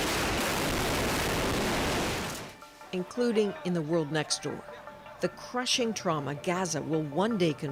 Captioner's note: bombing